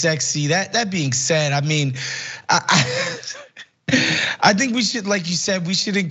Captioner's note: laugh